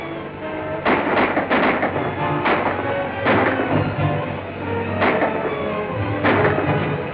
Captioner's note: gunshots